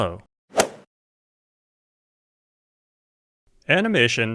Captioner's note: golf swing sound effect